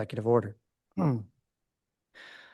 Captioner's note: clears throat